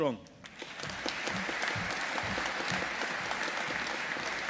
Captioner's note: audience applauding